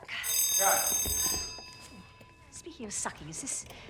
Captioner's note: bell ringing